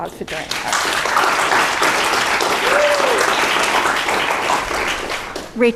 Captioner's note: applause